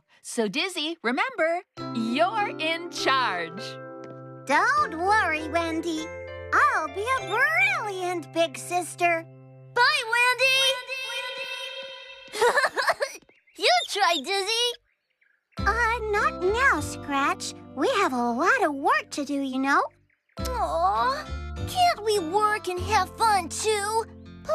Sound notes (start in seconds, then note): 10.8 echoes; 12.3 giggles